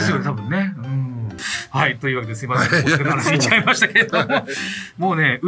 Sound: laughs

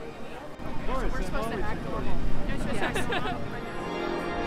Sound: laughs

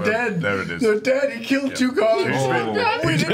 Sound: tearfully; tearfully

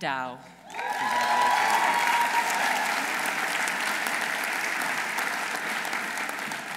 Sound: audience applauding; audience cheering

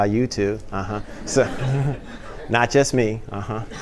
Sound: laughter

